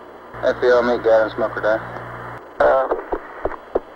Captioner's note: mission Control Audio